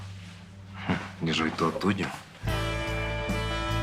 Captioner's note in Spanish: Ríe